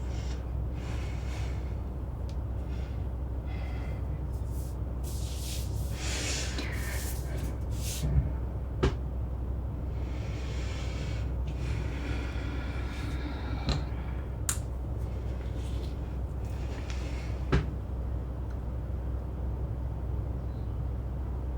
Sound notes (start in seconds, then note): 0.3 mother breathing deeply; 9.9 mother breathing deeply; 16.9 air conditioner humming continues